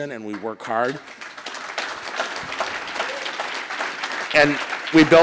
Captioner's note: audience applauding